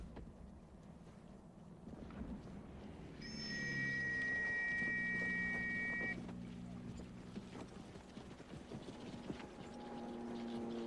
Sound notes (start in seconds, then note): 3.2 blows whistle; 8.8 aircraft passes